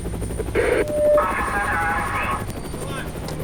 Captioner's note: helicopter whirring; muffled police radio broadcasting